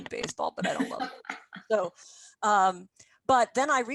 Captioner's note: laughing